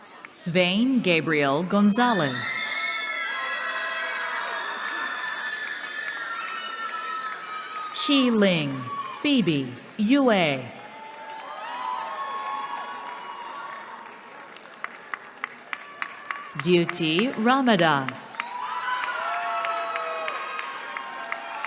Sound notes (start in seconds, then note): 2.1 cheering; 10.6 cheering; 18.3 cheering